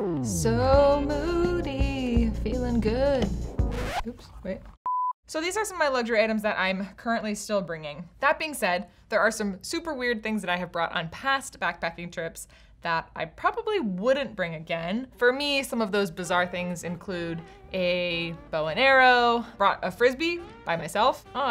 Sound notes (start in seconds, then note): 2.6 sensual music; 3.6 record scratches; 4.9 beeps